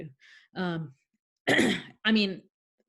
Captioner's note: clearing throat